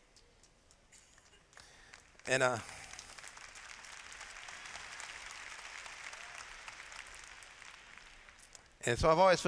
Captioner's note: applause